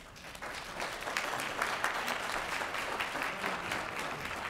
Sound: applause

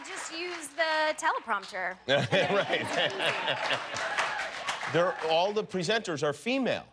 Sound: cheers and applause

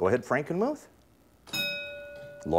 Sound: ding

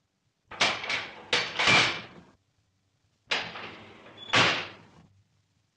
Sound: levers clang

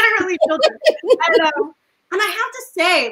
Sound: laughs

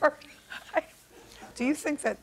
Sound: laughs

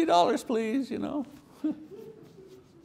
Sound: chuckles; audience member laughs

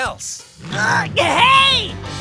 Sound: grunting

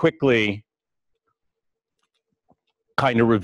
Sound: pause

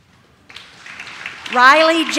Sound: audience claps

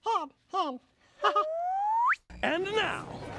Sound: chuckles

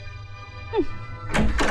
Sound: scoffs

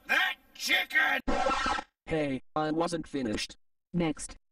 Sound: record scratches

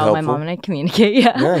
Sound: laughs

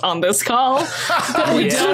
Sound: laughs uproariously

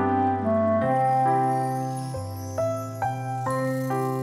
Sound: shimmering

